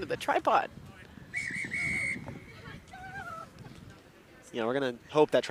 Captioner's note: whistle blows